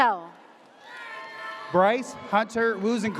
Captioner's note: audience cheers